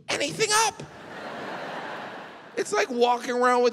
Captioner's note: audience laughing